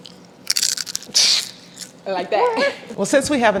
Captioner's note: brussels sprout crunching